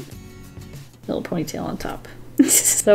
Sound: laughs

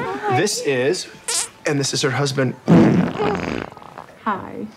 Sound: farts; farts

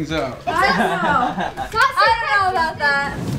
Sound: laughing

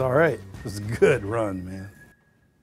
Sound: chuckles

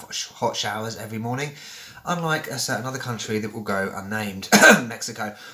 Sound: cough

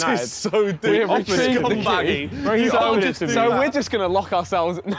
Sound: group talking

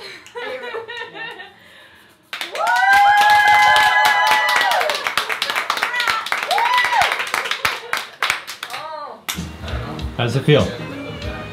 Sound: cheers

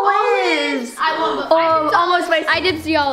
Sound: clamoring

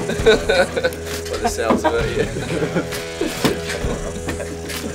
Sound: laughs

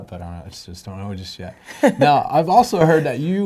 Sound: laughing

